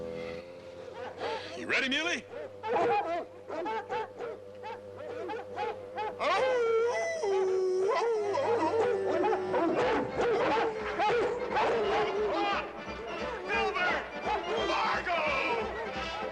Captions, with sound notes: ( dogs barking ) YOU READY, MULEY? ( Hoss howling ) FLOP! FILBERT! FARGO!